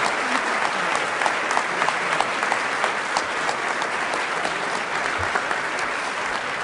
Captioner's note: applause